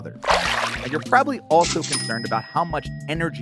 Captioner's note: register dings